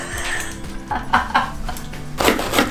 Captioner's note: laughs